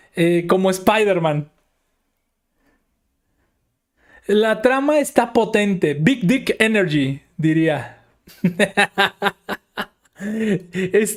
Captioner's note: laughs